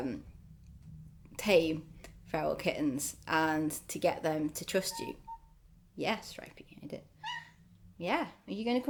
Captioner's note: meow